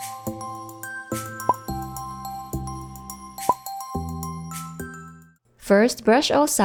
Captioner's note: bottle pops